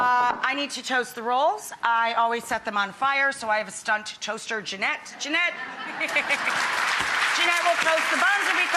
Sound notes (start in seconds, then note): 5.6 audience laughs